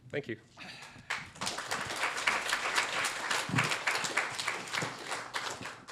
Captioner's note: applause